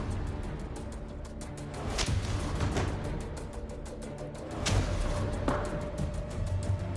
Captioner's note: suspenseful music; blow impacts